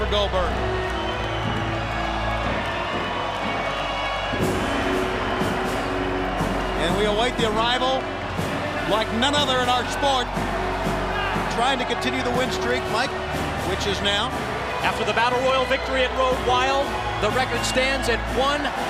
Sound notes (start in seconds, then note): 2.0 crowd chatter